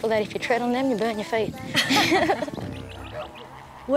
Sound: both laugh

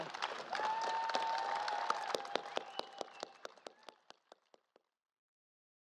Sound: applause

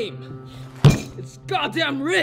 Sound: table slam

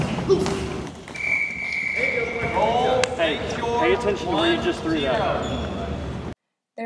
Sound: whistle

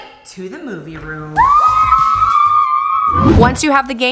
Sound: children cheering

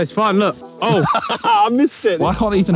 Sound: Simon and Josh laughing

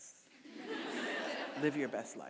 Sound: audience laughing

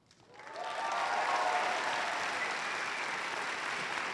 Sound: audience applauds

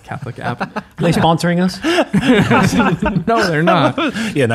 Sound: laughing

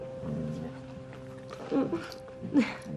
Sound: chuckling

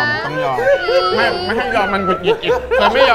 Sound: aww

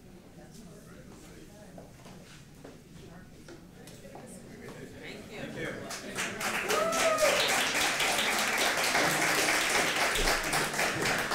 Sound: applause

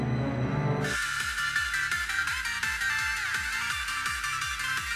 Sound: Zaney ringtone

